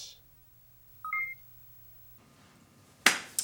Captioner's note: projector beep